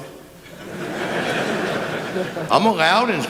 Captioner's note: laughter